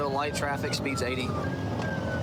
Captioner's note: warning sirens